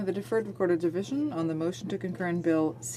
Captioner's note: speaking in french